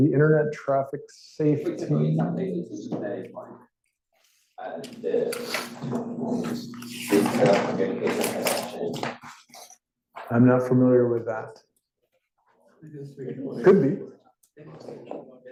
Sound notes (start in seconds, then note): 3.0 student talking faintly